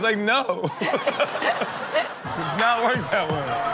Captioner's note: laughs